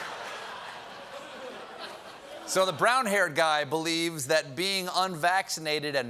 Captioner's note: laughter